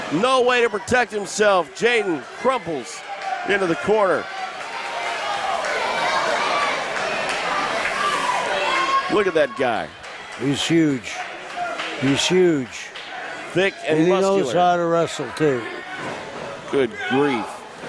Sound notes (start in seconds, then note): 5.8 crowd murmurs